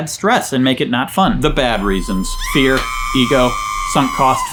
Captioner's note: woman screaming